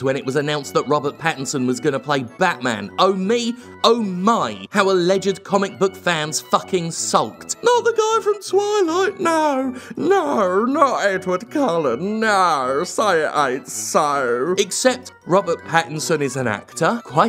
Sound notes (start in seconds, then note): 7.6 mocking impression; 9.9 mocking